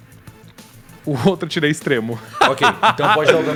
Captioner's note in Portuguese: risada